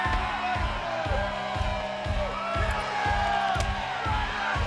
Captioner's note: fans shouting